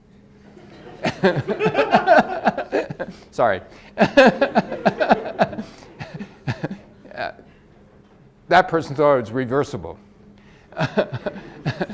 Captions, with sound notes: (audience laughs) Sorry, (laughs) that person thought it's reversible.